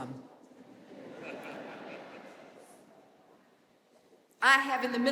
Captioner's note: audience laughing